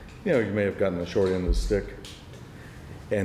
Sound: none

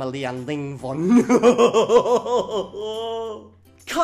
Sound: evil laughter

